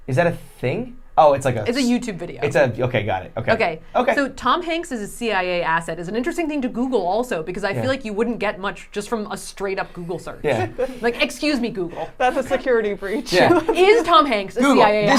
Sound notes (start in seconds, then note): 10.4 laughing; 13.1 laughing